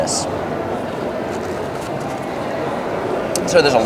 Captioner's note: eating